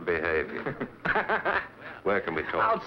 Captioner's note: laughing